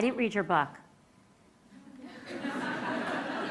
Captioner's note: laughter